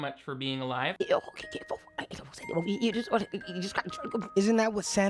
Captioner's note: grandma speaking gibberish